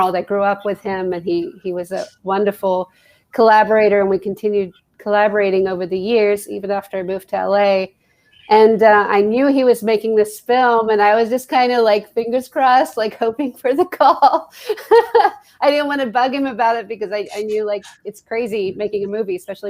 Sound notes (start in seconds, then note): 13.8 laughing